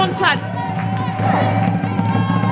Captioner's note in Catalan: Aclamacions